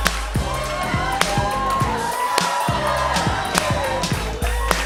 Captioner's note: cheers and applause